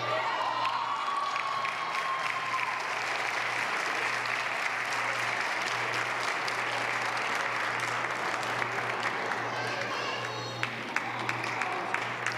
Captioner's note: applause